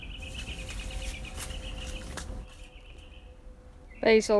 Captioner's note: piano ends; bird chirping